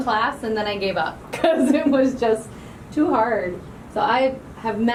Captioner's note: laughing